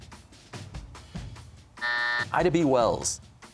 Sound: buzzer

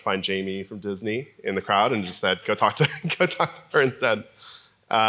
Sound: laugh

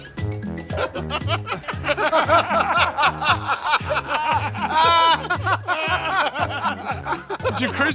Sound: laughing

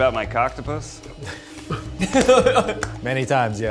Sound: laughing

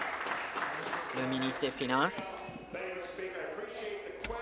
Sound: applause

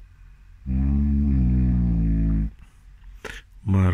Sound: snoring

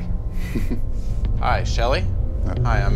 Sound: laughing

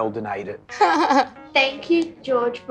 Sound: laughs

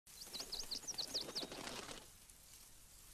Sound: bird Singing

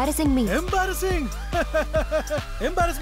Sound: giggling

